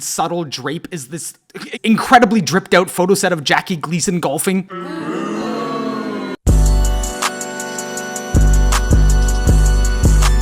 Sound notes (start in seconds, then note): 4.8 boos